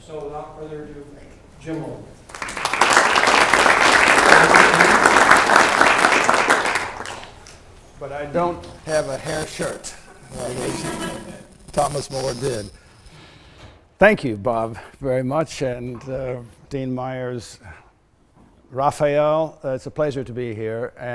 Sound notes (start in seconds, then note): 2.3 applause